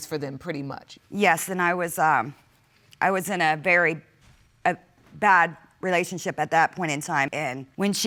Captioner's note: stammers